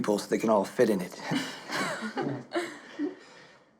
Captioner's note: laughing